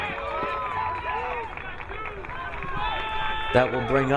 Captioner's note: crowd cheering